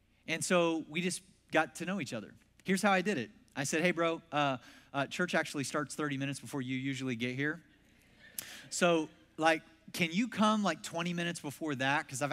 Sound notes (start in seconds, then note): 7.7 congregation laughs